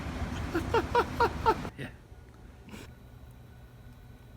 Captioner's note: laughing